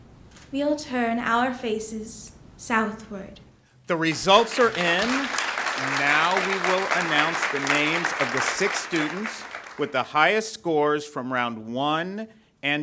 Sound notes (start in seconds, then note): 3.9 ^applause^